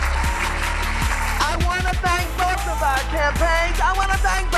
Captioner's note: cheers and applause